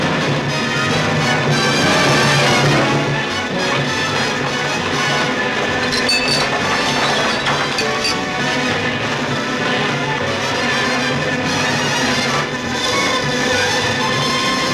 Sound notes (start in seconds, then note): 0.2 dramatic music; 3.5 buzzing